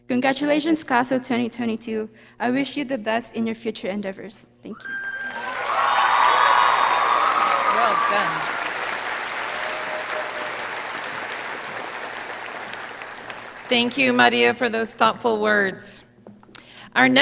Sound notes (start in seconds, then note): 5.9 audience cheering